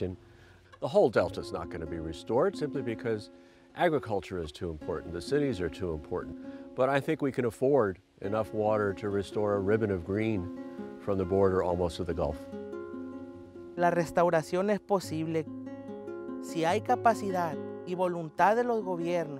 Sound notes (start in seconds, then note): 13.9 speaks Spanish